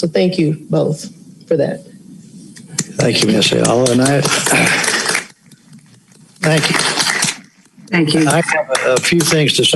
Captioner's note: applause